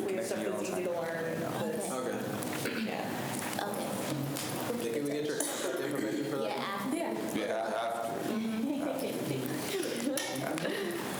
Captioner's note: students chatter